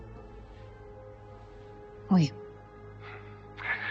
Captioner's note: Lily speaking French; LaFleur speaking in French